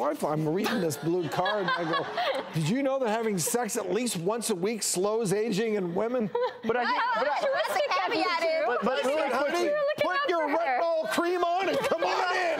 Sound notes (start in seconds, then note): 6.2 laughing